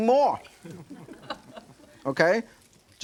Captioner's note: audience laughing